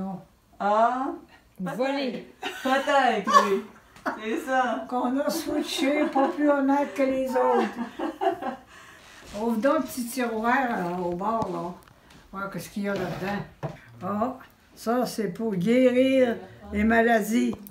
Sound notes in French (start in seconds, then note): 2.4 rires; 8.0 rires